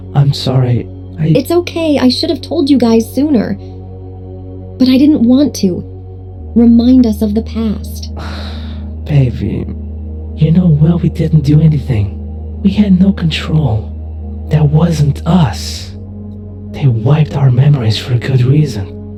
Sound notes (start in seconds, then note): 8.1 Vixen sighs